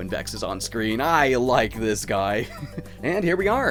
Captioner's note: giggles